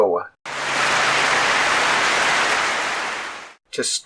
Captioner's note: clapping